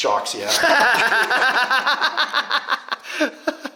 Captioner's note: laughing